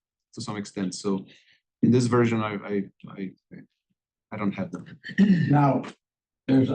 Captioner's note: cough